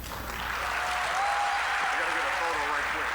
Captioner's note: applause, cheering